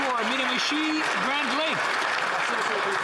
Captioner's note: some Applause